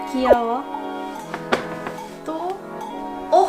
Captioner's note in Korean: 바스락